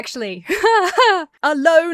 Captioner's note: laughs uncomfortably